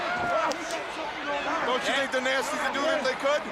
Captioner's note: crowd chatter